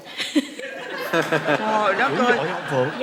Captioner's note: laughing